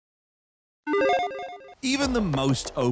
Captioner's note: playful warble